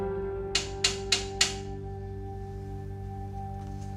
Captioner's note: door knocking